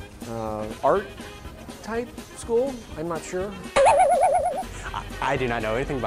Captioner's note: boing sound effect